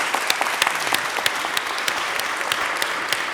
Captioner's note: applause